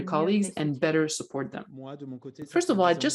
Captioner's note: speaks French